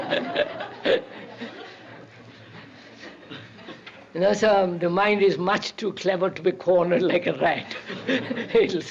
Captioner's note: laughter; K laughs